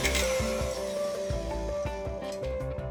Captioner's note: mixer stops